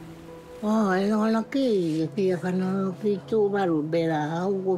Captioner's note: speaks tuvaluan